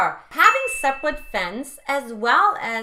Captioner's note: bell dinging